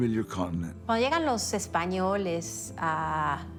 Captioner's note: in Spanish